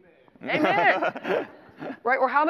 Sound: laughter

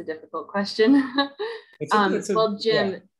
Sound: chatter

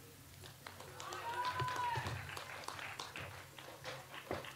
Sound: audience applauds

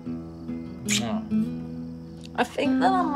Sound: mellow acoustic guitar music; kissing

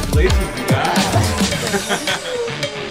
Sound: laughs

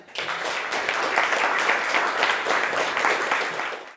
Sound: applause

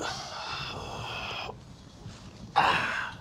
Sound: exhales

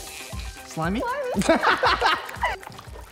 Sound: laughing

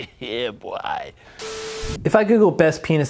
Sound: static crackles

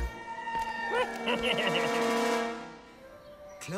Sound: evil laugh

